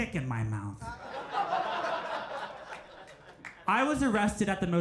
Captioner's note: crowd laughs